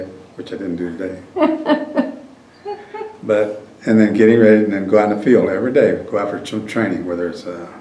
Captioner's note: laughter